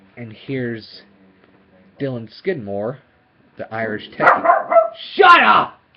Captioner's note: dog Barking Again